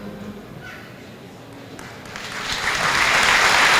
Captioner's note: applause